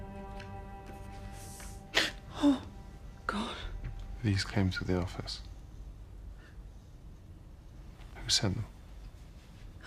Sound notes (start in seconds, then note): 1.8 gasps